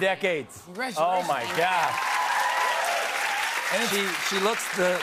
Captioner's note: cheers and applause